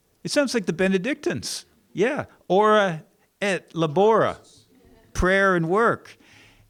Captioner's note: non-english speech